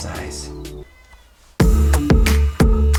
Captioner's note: cat meowing; upbeat music